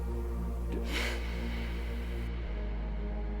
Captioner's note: gasps